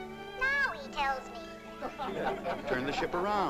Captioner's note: men laugh